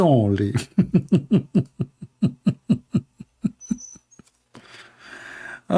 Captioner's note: Ketawa